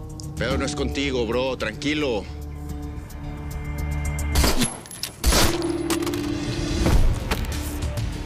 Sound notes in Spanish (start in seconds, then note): 5.2 Disparos